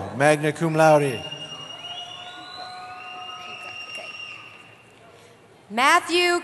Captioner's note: cheering